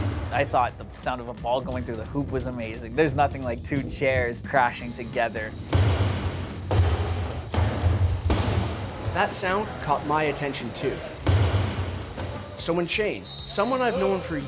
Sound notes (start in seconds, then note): 5.5 chairs crashing